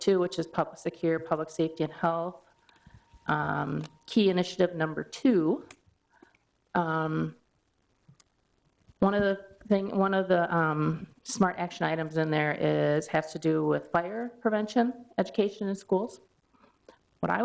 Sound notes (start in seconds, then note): none